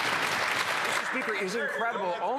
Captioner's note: some Applause